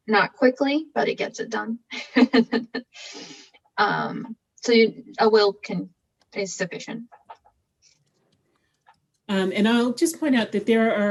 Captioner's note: laughing